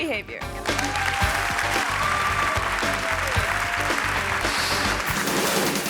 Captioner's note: audience cheering and clapping; energetic music